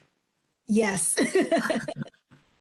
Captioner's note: laughs